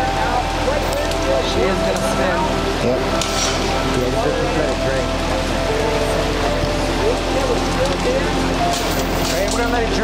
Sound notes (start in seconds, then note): 1.6 winch creaking